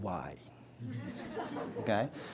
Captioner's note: audience laughs